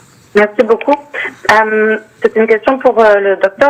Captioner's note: speaking French